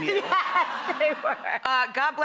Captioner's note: laughing